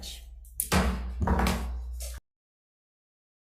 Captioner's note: gavel thumps